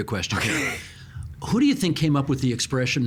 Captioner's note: laughing